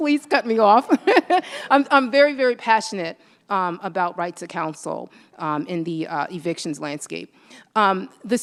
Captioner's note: laughs